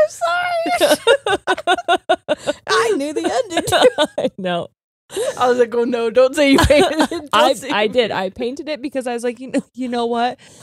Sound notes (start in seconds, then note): 0.6 both laughing